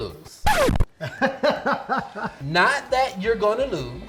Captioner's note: laughing